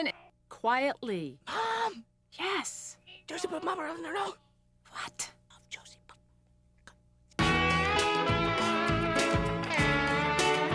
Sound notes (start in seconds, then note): 2.5 whispers; 3.3 quietly; 5.8 whispers